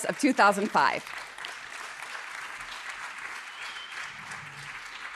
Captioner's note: audience applauding